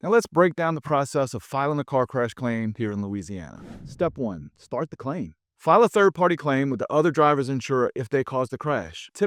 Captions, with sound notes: Now, let's break down the process of filing a car crash claim here in Louisiana. (screen whooshing) Step one, start the claim. File a third-party claim with the other driver's insurer if they caused the crash.